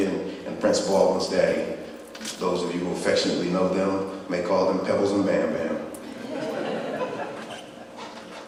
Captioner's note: laughing